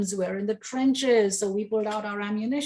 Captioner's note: none